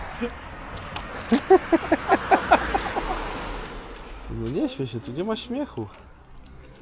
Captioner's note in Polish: śmiech